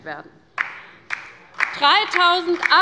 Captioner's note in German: Beifall bei der LINKEN